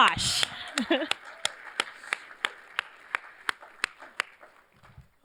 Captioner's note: cheers, applause